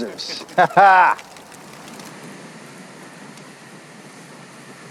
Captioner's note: laughs; crickets chirping